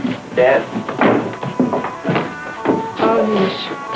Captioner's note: footsteps